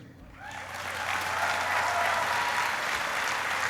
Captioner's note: applauding